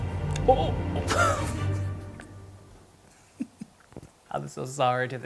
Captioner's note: laughing